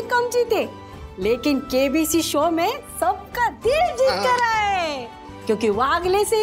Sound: chuckling

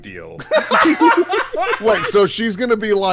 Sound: laughter

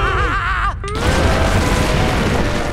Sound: crashing

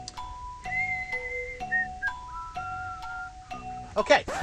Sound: whistling

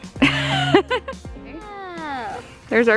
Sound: laughs

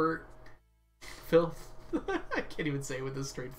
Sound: laughs

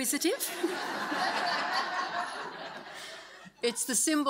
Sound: audience laughs

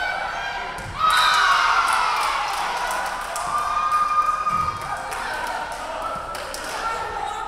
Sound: crowd cheering; referee whistling

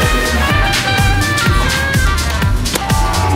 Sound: people chattering indistinct; poster rustles; ball taps

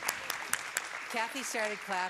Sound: applause

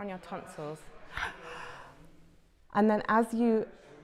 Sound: breath

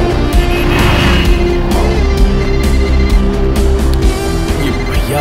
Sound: car honking; mobile phone ringing

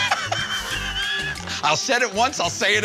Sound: slurs excessively; laughter

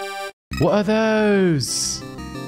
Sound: vaguely British

